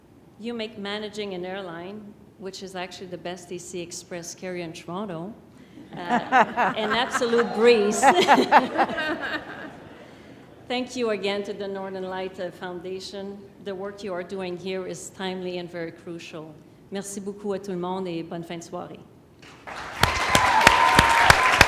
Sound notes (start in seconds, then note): 5.8 laughter